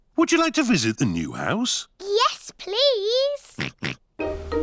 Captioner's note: oinks